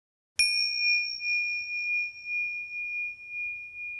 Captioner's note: bell dinging